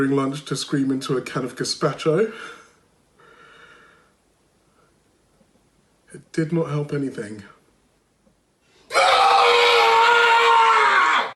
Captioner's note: screams